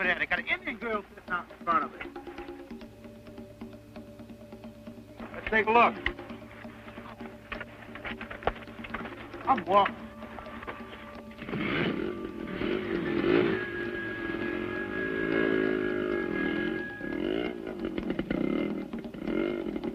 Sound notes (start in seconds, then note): 11.5 engine revving